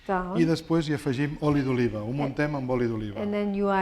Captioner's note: speaking spanish